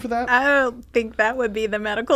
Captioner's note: laughing